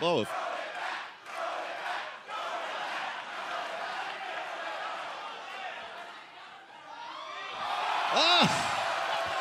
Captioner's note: fans chanting